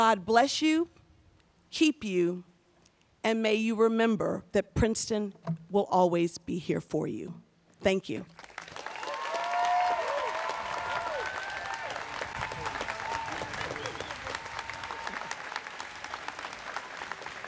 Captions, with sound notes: May God bless you, keep you, and may you remember that Princeton will always be here for you, thank you. (students cheering)